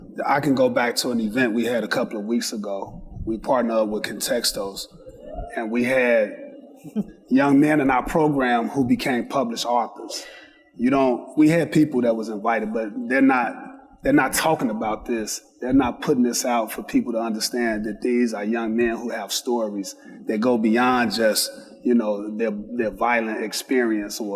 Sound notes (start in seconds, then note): 5.1 audience member cheers; 6.6 laughs